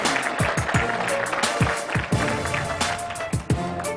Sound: applause

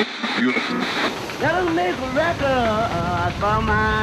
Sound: radio announcement

